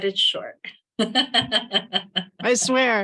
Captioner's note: laughs